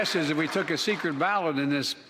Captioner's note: applause